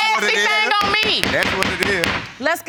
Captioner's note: gavel banging